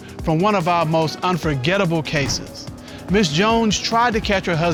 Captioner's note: none